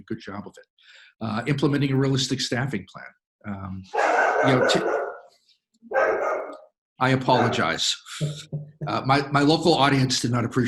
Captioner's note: dog barking